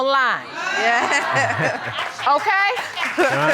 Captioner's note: audience laughs